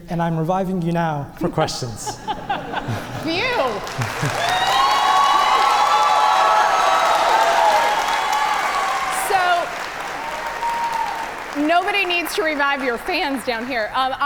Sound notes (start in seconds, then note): 1.8 judges and audience laugh; 4.1 audience cheer and applaud